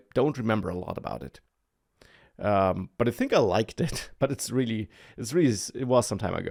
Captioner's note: laughs